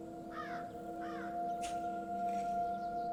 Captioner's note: birds cawing